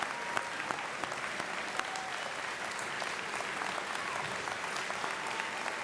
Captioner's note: applause